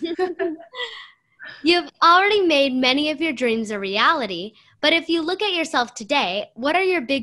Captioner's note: laughter